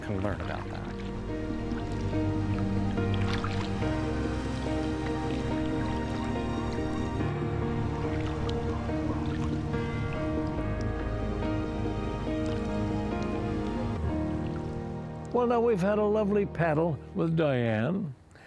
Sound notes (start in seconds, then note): 0.9 cheerful mid-tempo piano music; 2.8 water splashing